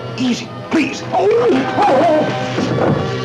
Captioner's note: Dr. Bradshaw cries out; thump